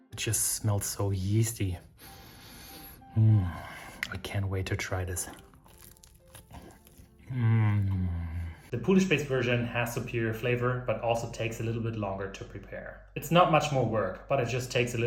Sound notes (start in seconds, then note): 0.0 bright piano; 2.0 baker sniffs